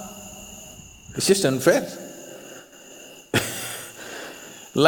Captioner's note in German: lacht